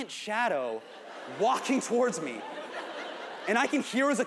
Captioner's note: audience laughs